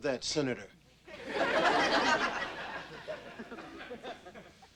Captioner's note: audience laughing